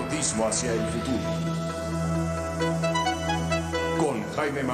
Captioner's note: in vreemde taal